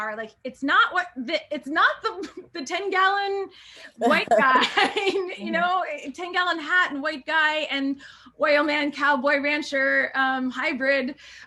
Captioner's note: laughter